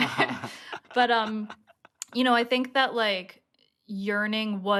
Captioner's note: laughter